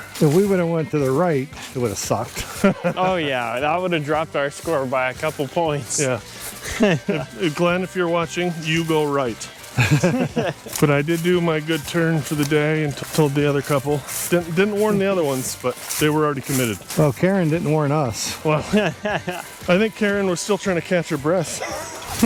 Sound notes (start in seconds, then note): 9.7 laughter